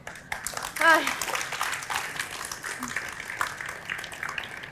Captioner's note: applause